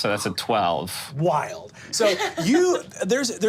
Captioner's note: woman laughing